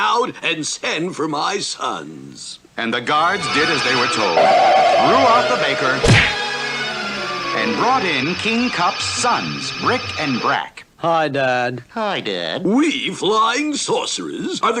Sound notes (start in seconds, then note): 6.0 smack!